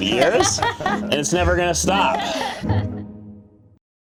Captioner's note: laughter